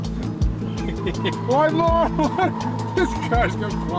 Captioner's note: laughing